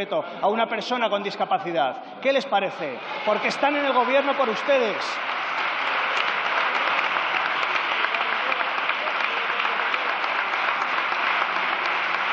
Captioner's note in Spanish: Aplausos